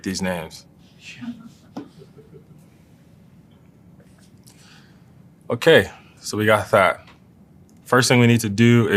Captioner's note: laugh